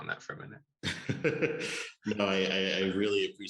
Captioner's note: chuckle